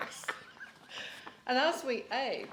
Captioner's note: laughter